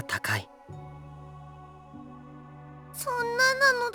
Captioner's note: silence